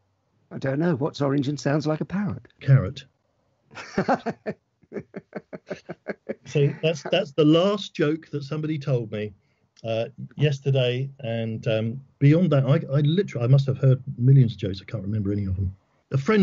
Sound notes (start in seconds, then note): 3.7 laughs